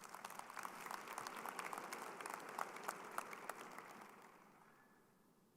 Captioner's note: crowd applauding